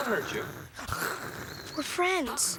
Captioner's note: Paku growls and hisses